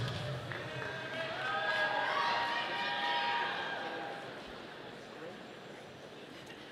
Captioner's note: audience applauding